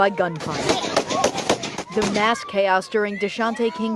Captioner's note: gunfire